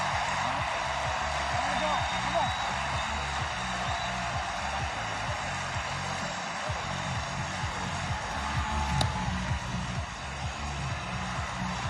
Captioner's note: cheering